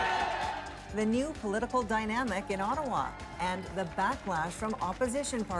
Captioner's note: cheers and Applause